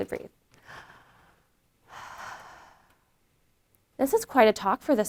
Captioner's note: inhales and exhales